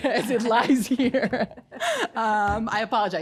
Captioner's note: laughing